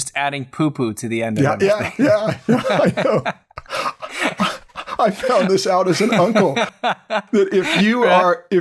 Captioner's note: laughter